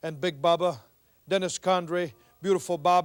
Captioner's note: none